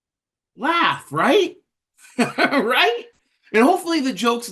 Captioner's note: laughter